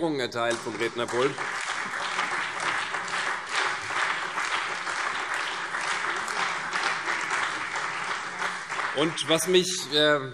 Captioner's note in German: Beifall CDU, BÜNDNIS 90/DIE GRÜNEN, Freie Demokraten und vereinzelt SPD